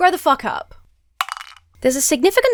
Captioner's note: cow-duck clatters